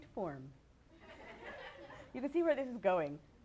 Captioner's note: laughter